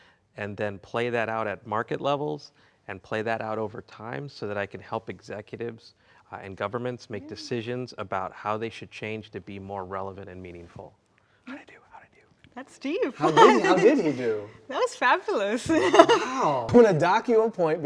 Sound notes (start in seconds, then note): 13.2 laughs